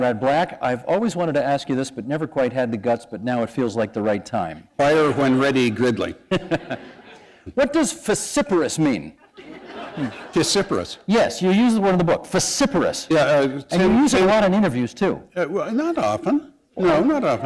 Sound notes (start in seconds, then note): 6.2 laughter